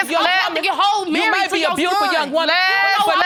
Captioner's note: arguing continues; both arguing